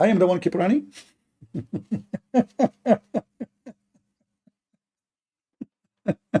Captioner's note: Ketawa